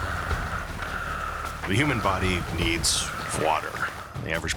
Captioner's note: panting heavily